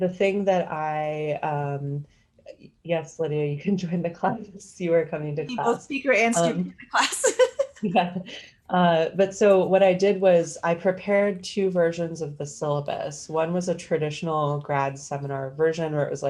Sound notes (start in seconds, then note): 7.1 laughs